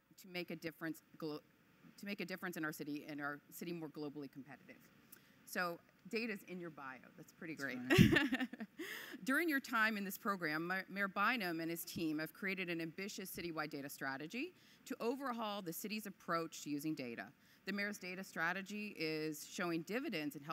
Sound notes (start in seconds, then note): 7.6 interviewer laughs